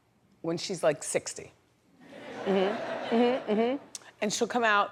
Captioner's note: audience laughs